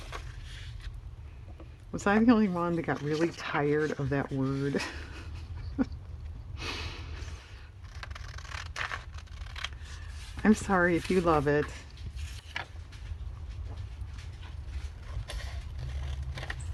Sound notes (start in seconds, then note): 9.3 laughs